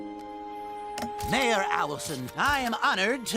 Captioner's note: camera shutters click